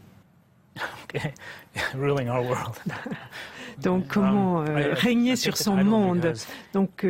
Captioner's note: laughs